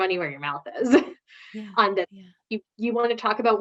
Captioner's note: laughs